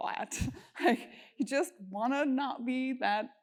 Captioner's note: laugh